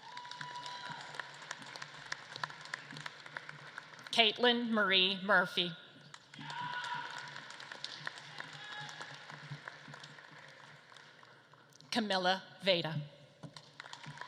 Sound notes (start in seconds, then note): 0.0 audience claps and cheers; 5.5 audience claps; 13.4 audience claps and cheers